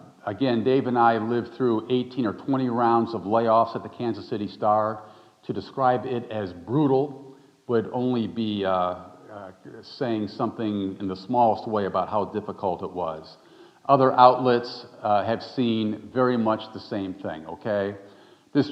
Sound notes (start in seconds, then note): none